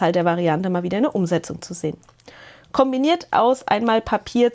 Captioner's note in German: none